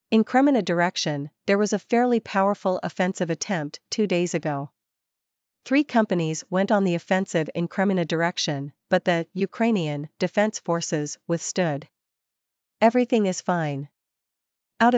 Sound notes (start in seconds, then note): 9.6 Ukrainian